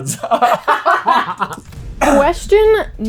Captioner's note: laughter